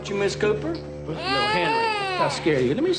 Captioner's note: baby crying